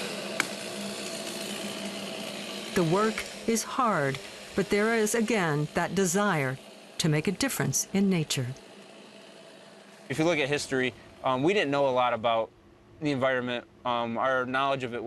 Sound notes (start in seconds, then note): 1.8 chainsaw buzzing